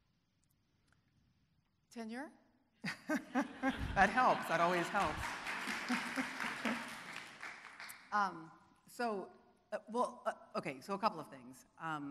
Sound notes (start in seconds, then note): 2.9 laughing; 6.0 audience applauding